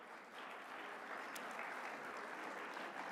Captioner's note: applause